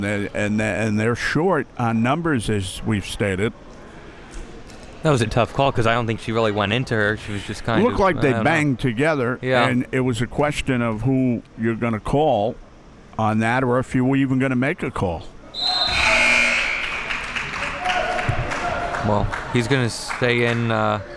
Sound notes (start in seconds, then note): 15.5 whistle blowing; 15.6 buzzer blaring